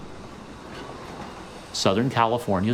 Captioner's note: steam hissing